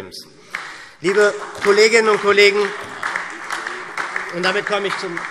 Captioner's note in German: Beifall SPD